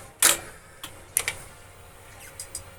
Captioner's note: clicking